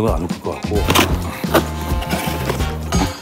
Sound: ripping open

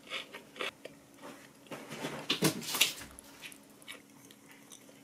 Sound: Thud.. The sound of Hoochoo jumping

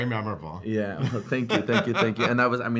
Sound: laughs

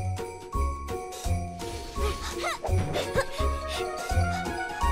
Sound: panting

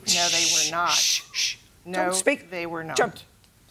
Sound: shushing

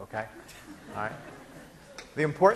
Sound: laughing

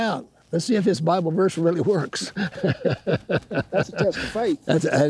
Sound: laughs

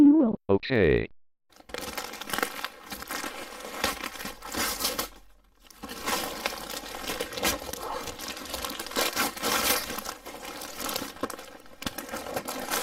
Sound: gift unwraps

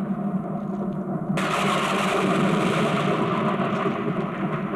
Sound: thunder crashing

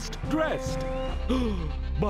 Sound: gasps

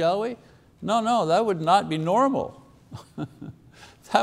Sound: chuckles

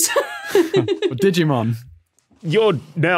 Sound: both laughing

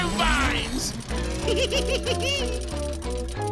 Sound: giggling

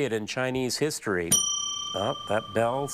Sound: bell dings

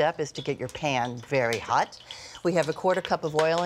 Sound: oil sizzling

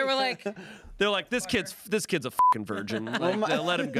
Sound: beep

